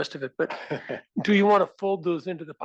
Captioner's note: laugh